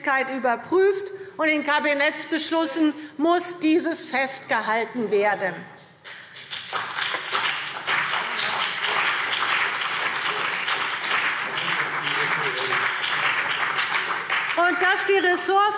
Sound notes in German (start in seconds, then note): 6.1 Beifall CDU und BÜNDNIS 90/DIE GRÜNEN